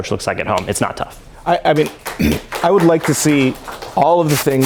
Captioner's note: applause